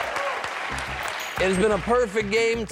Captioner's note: cheers and applause